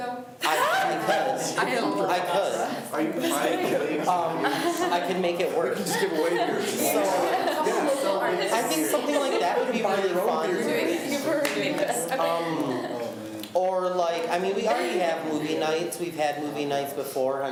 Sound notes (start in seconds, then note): 4.8 students talk amongst themselves